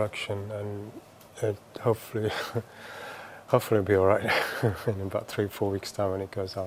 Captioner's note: laughs